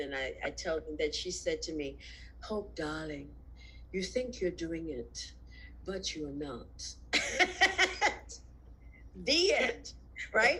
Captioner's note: laughs